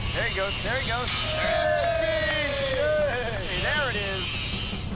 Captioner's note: all cheering